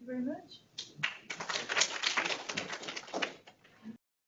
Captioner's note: applause